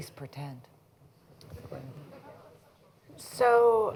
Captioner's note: laughter